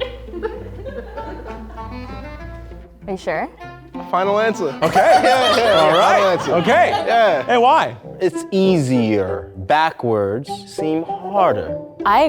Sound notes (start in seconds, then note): 0.0 audience laughs; 4.8 laughs